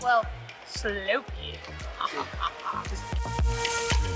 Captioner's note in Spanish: risa maligna